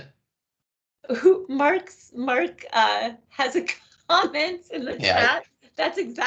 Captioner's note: laughing